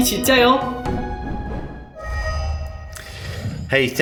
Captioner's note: whooshing